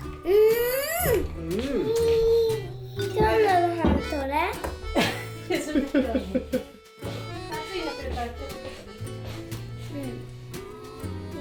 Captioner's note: laughs